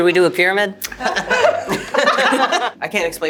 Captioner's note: group laughing